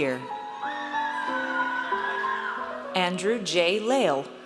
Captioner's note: audience cheers